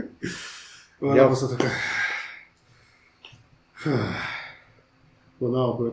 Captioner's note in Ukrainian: зітхання